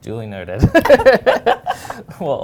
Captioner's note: laughing